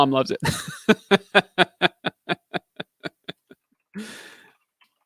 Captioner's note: laughing